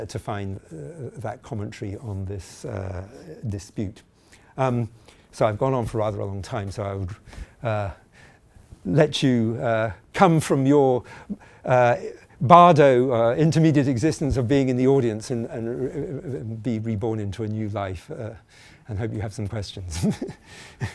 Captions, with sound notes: to find that commentary on this dispute. So I've gone on for rather a long time. So I... let you come from your bardo, intermediate existence of being in the audience and be reborn into a new life. And hope you have some questions (chuckling).